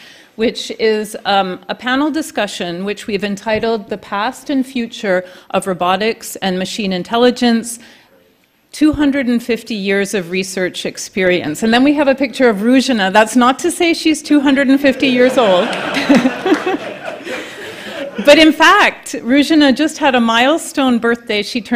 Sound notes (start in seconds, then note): 14.9 laughing